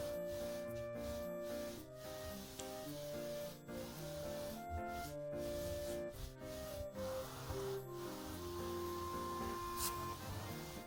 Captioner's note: rub rub